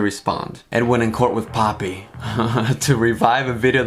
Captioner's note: laughs